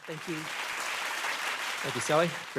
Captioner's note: audience clapping